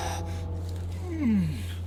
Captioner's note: hard breathing